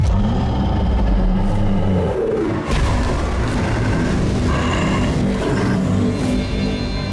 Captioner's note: monster growling; intense ominous music